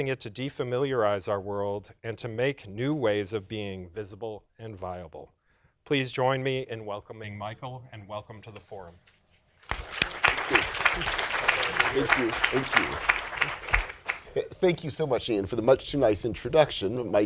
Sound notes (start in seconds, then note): 9.6 applause